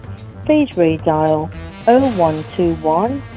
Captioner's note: beep